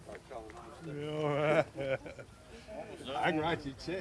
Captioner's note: laughs